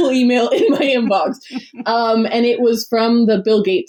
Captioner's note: laughs